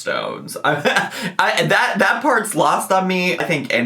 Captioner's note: laughs